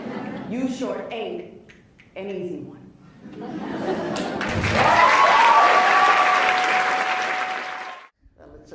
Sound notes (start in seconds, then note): 4.2 applauds; 5.0 laughs